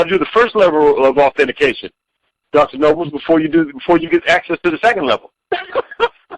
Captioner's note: chuckling